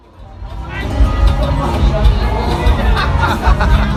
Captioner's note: upbeat music; people talking; people laughing